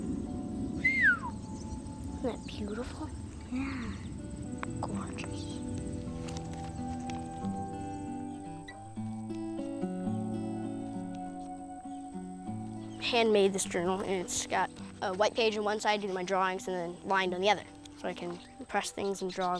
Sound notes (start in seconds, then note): 0.0 whistling in appreciation